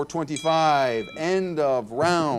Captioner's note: bell ringing